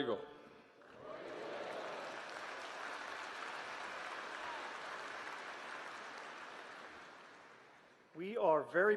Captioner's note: applause